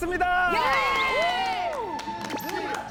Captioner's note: screeaammm